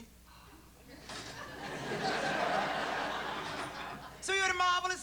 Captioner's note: laughter